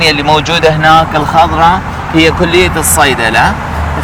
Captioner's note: speaking Arabic